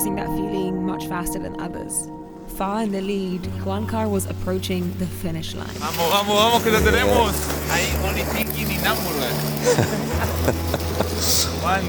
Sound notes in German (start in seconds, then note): 6.0 spricht in einer Fremdsprache; 9.6 lacht